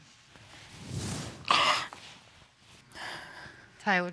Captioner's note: sniffles